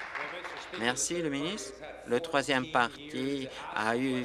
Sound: applause

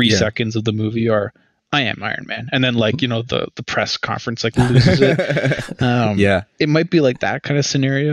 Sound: laughter

